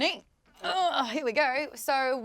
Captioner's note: groans